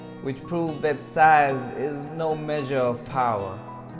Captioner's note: none